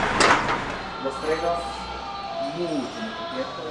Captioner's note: in Spanish